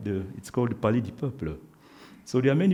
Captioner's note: speaks French